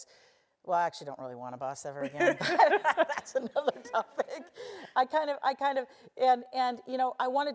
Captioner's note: laugh